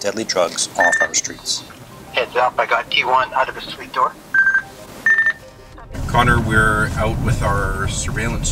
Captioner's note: radio noise